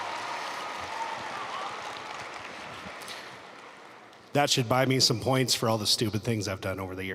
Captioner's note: applause